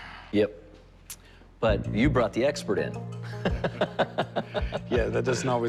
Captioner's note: laughs